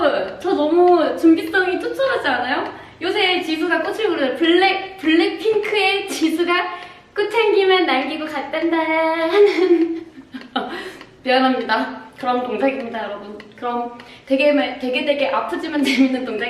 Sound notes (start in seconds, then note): 9.3 laughing; 13.4 laughing